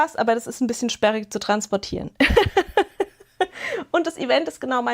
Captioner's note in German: gelächter